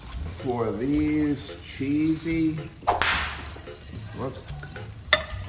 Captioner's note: whip snapping